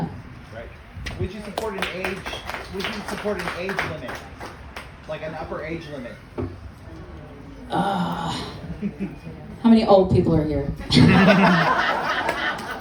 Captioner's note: laughter